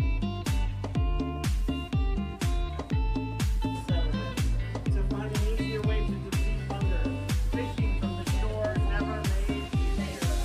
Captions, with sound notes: - So good to finally hear what you would (crowd chattering)